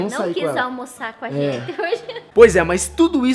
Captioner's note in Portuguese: Risada